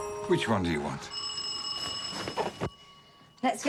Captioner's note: doorbell ringing